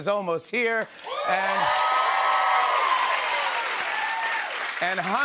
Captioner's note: cheers and applause